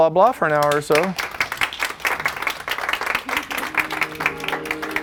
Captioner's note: applause